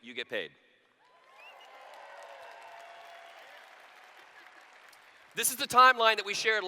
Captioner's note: cheers